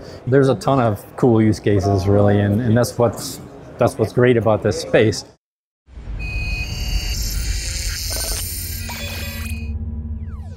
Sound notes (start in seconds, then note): 6.1 electronic beeping